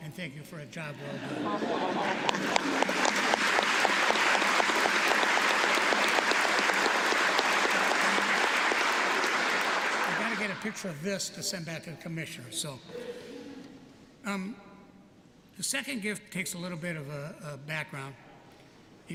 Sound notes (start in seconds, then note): 1.0 laughter; 1.8 applause